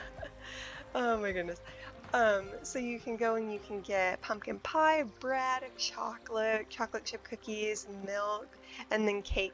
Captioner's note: laughs